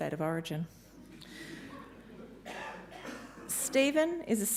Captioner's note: audience members lightly laughing